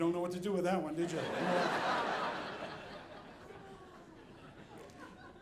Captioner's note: audience laughing